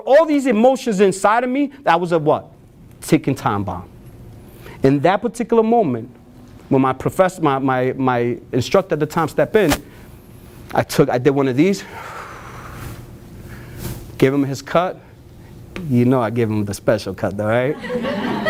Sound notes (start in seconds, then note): 11.8 exhales